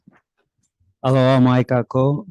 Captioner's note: speaks in foreign language